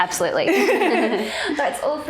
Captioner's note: all laughing